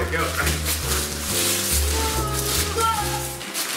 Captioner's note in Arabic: تمزيق الورق